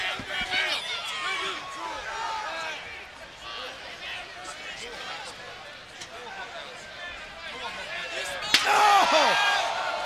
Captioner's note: crowd chatter; crowd cheering